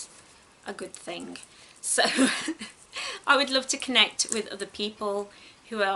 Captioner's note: giggles